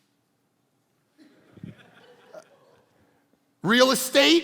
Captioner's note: congregation laughing